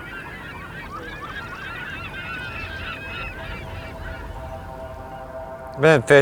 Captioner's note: seagull call sounds